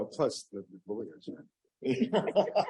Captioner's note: laughter